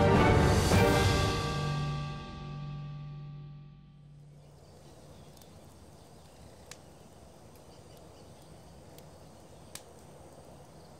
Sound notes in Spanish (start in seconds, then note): 4.0 Crepitar de fuego